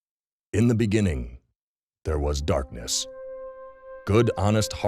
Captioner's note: voiceover